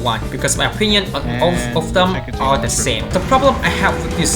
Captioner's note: speaking in background